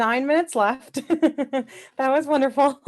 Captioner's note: laughing